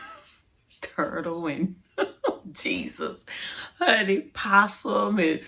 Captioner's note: laughs; laughs